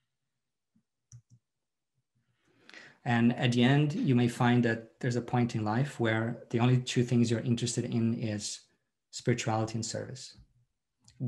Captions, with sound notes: (mouse clicks) And at the end you may find that there's a point in life where the only two things you're interested in is spirituality and service.